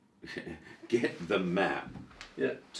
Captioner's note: chuckles